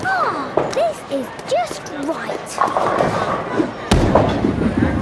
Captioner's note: none